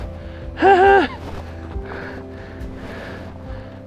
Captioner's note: panting